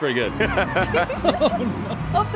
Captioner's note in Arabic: تضحك